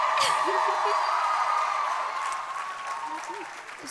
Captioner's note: crowd applauding; crowd cheering; laughs